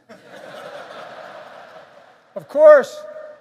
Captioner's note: laughter